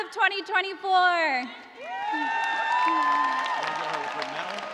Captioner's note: cheers and applause